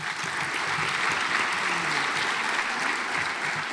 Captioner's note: audience applauds